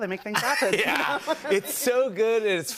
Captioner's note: laughter